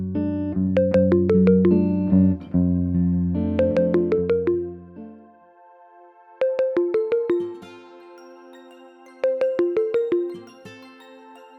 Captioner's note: phone rings